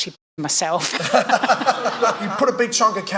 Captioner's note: laughing